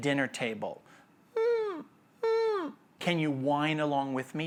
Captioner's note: imitating a whining dog